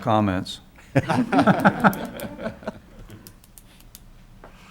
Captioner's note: laughs